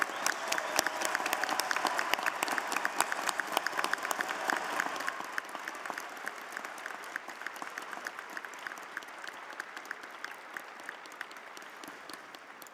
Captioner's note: cheers and applause